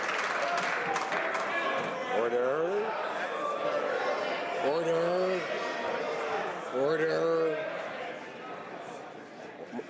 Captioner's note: some Applause